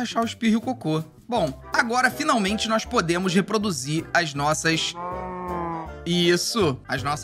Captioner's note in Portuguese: som de vaca